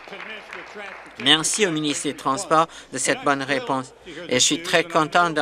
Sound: applause

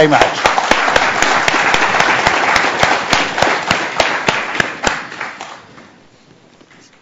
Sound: applause

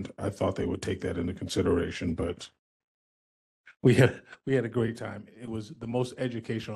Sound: laugh

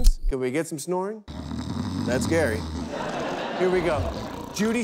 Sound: man snoring

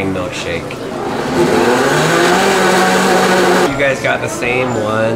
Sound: blender humming

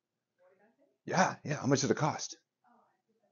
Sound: attendee faintly speaks

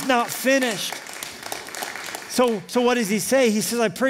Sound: applause

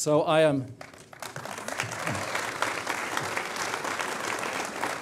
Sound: applause

